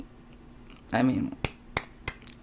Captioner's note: claps 3 times